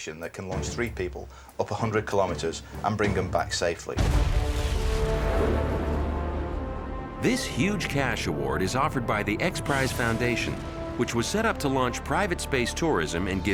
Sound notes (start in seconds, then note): 4.0 rocket blasting; 4.4 dramatic music